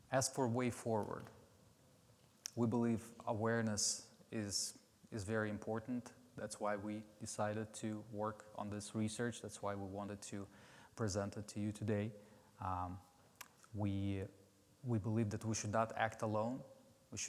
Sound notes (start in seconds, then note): none